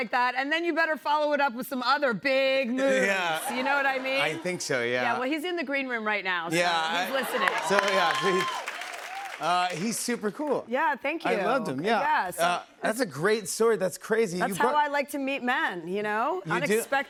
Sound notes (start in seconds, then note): 7.1 cheers and applause